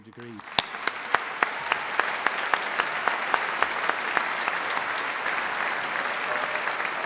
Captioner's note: audience applauding; audience cheering